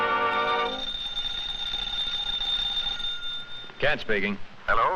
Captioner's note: phone ringing